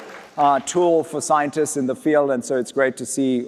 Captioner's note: applause